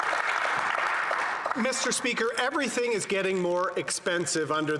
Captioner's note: some Applause